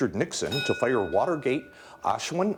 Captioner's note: bell dinging